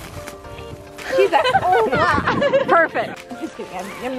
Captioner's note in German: lacht